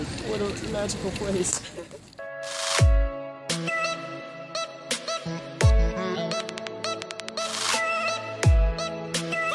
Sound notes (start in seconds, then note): 1.5 laughing